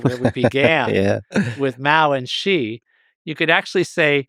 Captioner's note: laughs